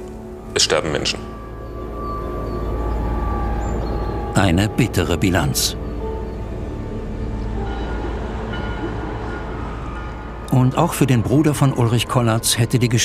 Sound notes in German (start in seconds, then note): 1.5 Unheilvolle Musik; 8.3 Kirchenglocken